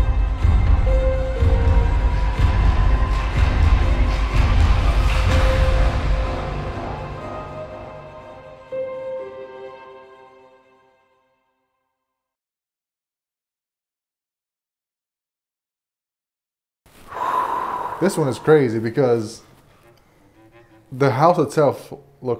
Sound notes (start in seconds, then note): 0.3 foreboding music continues; 17.0 exhaling sharply